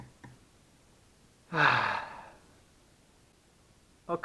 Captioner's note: sound of despair